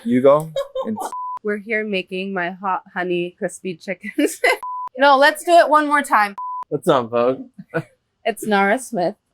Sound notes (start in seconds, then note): 1.0 screen beeping; 4.6 screen beeping; 6.3 screen beeping